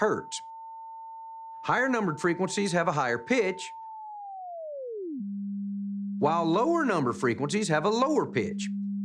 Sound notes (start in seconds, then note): 1.3 high-pitched tone sounds; 4.6 tone lowers